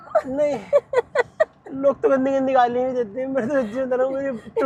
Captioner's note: laughter